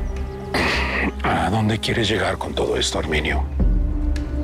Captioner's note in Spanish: Carraspea